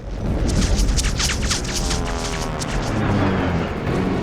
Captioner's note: airplane engines roaring